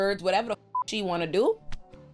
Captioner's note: beep